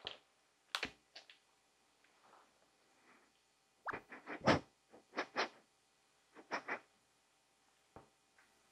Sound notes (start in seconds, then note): 3.7 sniffing